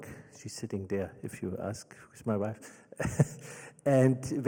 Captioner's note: laughs